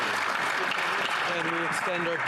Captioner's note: some Applause